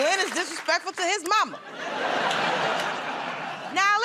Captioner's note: laughter